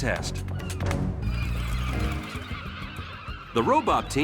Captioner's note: gulls squawking